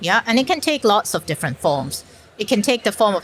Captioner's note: none